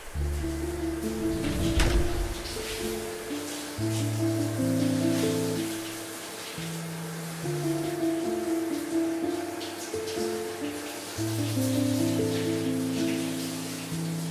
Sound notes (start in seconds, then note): 1.5 water pattering; 5.9 gentle morose music